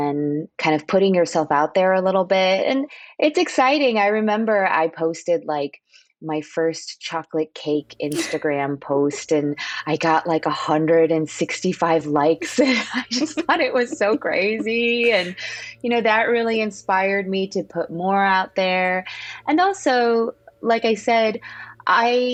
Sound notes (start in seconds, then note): 12.4 laughter